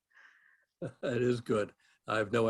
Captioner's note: laugh